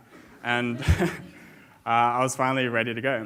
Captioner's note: audience laughs